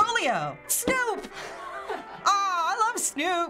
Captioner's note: Finebros laughs